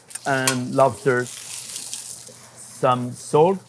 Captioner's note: pan sizzling